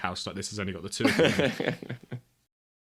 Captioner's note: laughs